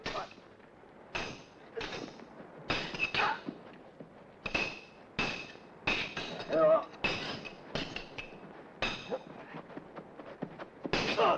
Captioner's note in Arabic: صوت السيوف